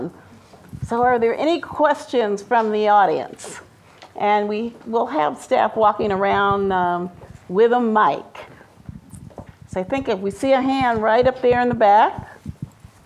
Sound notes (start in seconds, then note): none